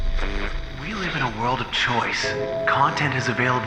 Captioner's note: voiceover